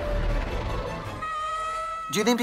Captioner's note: dramatic music; young Adam screams